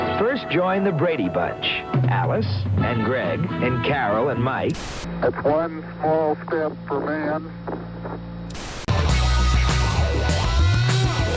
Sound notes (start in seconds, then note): 4.5 static crackles; 8.8 upbeat music